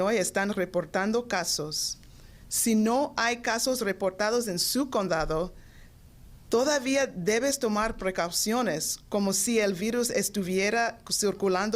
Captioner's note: speaking Foreign Language